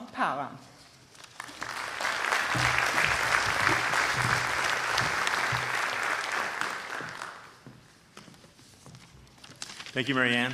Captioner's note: applause